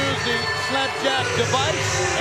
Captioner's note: bell ringing